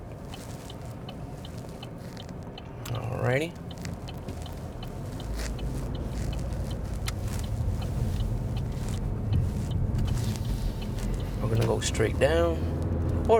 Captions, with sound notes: Alrighty. (car turn signal clicking) We're going to go straight down